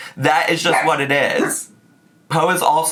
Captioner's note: Po barks